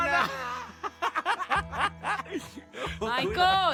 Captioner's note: laughter